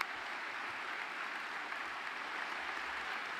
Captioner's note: applause